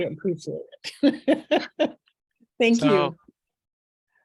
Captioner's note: laughs